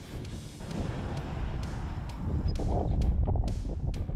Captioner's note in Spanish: viento que sopla